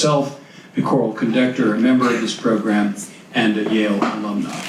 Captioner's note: audience claps